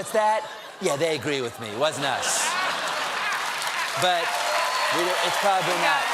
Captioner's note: cheers and applause